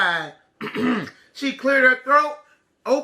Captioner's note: clears throat